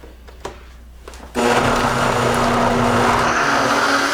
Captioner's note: whirring